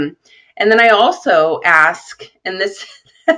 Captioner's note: laughing